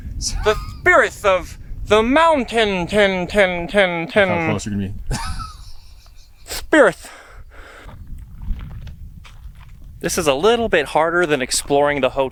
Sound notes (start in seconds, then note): 6.0 laughing